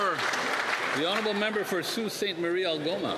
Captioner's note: cheering and Applause